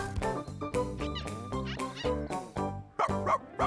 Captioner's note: squeak, Squeak, Squeak